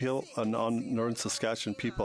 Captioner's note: speaking French